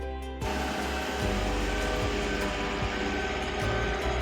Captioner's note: sound of crane engine